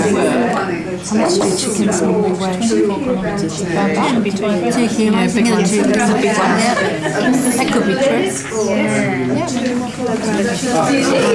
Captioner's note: audience chatter